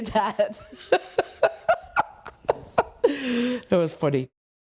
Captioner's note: laughs